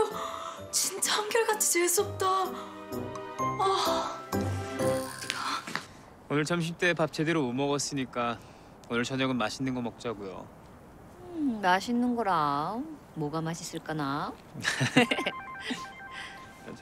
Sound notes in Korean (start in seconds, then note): 15.0 휴대전화벨 소리